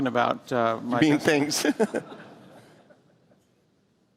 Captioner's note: laughter